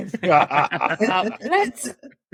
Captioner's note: laughing